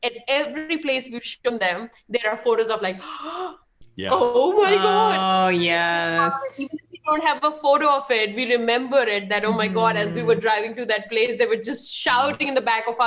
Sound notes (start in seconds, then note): 6.9 laughing; 9.4 chuckles; 9.4 both laughing